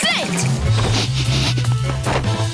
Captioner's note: sniffing